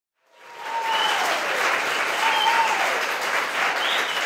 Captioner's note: cheering and applause